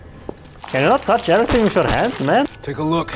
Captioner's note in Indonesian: Splat